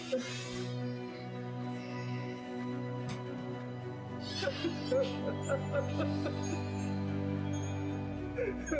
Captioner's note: Karan Cries